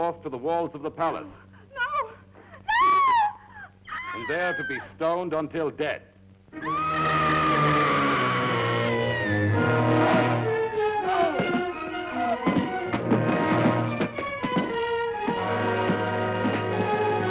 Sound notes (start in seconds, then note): 6.5 woman screams; 10.2 dramatic music